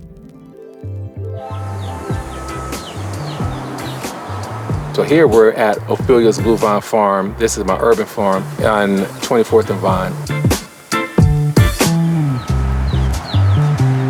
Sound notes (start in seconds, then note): 1.6 birds chirping; 1.6 mellow music; 10.5 mellow music continues